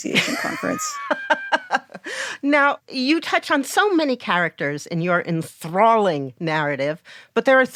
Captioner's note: laughs